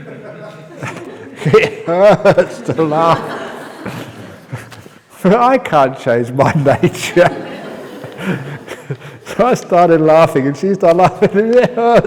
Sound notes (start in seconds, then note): 6.4 laughter